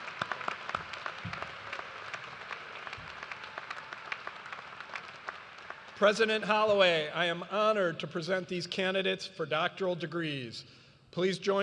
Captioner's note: cheers and applause